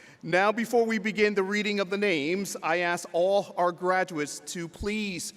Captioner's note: none